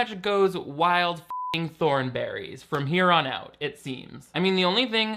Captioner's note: beep